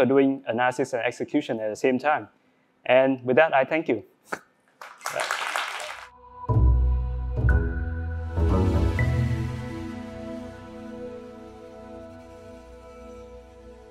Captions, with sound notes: doing analysis and execution at the same time. And with that, I thank you. [APPLAUSE] [AUDIO LOGO]